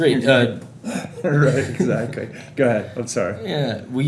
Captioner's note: laughs